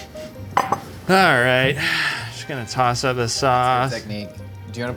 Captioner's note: jazzy music; sighs